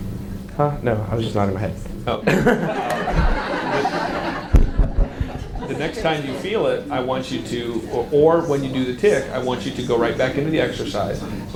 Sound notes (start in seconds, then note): 2.2 audience laughs; 2.3 chuckles